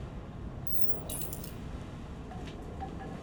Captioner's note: digital clicks; wind chimes